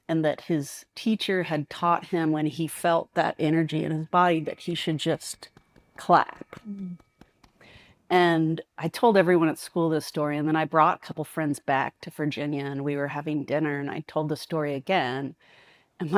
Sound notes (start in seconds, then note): 7.0 claps